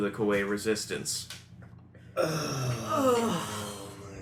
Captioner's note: sighs of grief